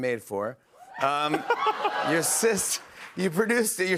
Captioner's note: laughs